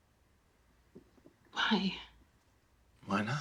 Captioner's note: none